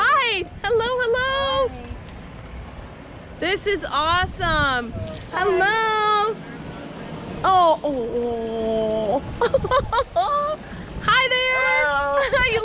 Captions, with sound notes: All right, hello, hello. This is awesome. Hello! Oh, aw. (laughter) Hi there!